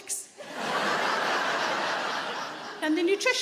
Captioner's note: audience laughing